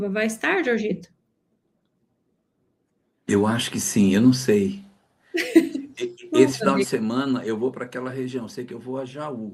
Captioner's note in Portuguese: risadas